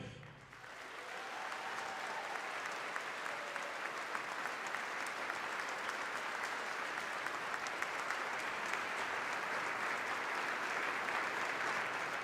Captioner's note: applause